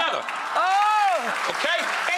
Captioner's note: audience applauds